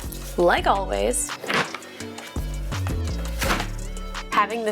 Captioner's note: box clattering